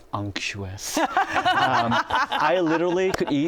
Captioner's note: laughter